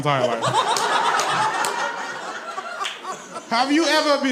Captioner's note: audience laughs